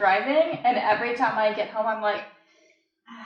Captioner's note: sighs